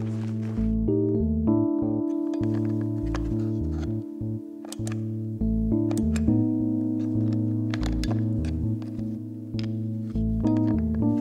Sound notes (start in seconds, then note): 2.1 batteries clattering; 4.2 light clicking